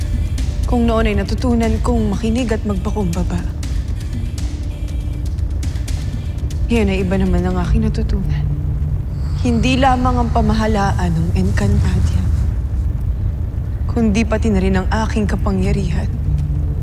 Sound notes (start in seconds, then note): 4.3 fire crackling; 16.6 ethereal music playing; 16.6 fire crackling